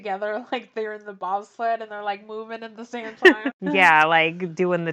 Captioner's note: laughs